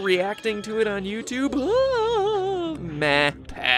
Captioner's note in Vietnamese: mỉa mai